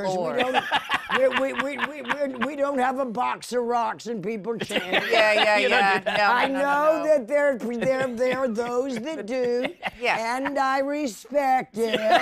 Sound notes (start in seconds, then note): 0.2 laughs; 11.8 laughter